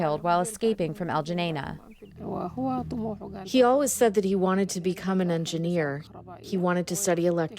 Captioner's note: through translator